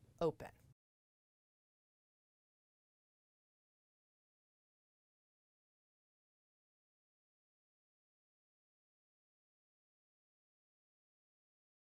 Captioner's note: no Sound Present